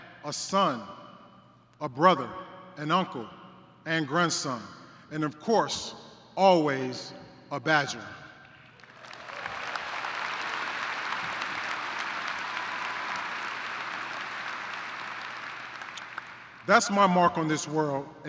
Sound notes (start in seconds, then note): 8.5 applause